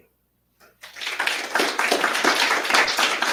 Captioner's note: audience applauds